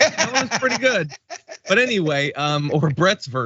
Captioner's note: laugh